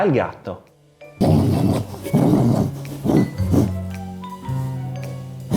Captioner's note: gnawing noises